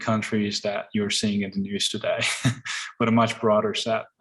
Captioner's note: laughs